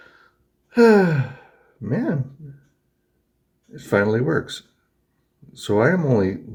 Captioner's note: sighs